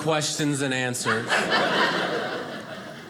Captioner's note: audience laughing